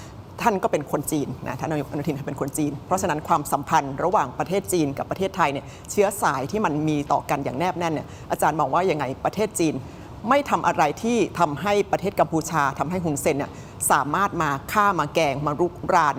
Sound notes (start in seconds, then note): none